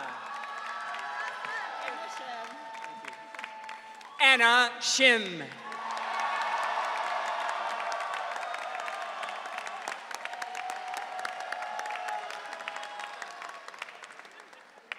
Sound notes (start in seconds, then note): 0.0 audience cheering; 5.6 audience cheering